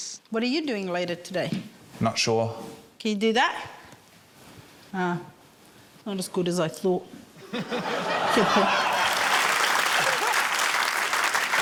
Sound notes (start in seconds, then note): 7.4 laughter; 8.1 applause